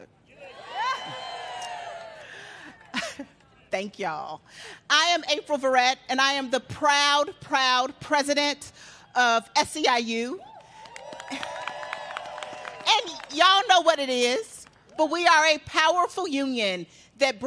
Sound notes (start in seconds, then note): 4.7 cheers and applause; 13.3 applause